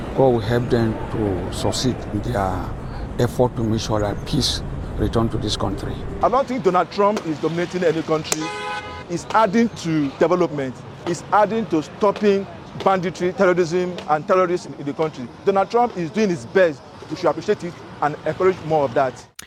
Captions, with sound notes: God will help them to succeed in their effort to make sure that peace return to this country. I don't think Donald Trump is dominating any country. [horn honking] He's adding to development. He's adding to stopping banditry, terrorism, and terrorists in the country. Donald Trump is doing his best. We should appreciate it and encourage more of that.